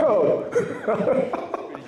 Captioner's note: laughs